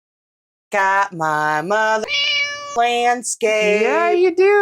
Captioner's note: meow